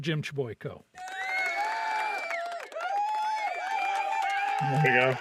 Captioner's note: audience cheering